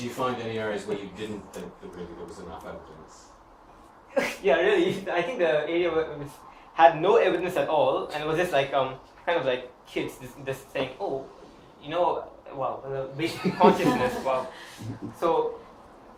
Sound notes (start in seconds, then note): 1.1 chuckles